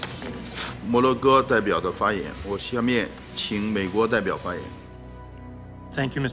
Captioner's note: chinese representative speaking Chinese